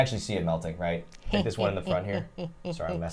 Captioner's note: snickers